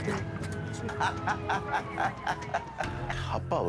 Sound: laughter

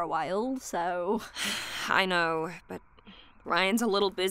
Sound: sighs

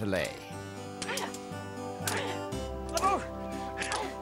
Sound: both grunting

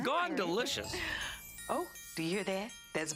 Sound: chiming

